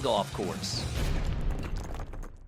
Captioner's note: logo bangs